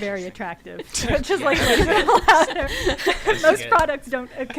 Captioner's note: laughter